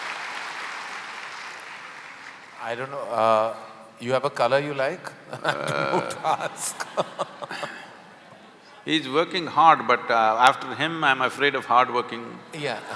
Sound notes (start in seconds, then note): 4.8 laughs; 12.4 laughter